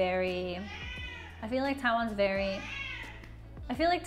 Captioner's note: meow; meow